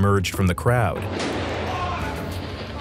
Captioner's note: gunshot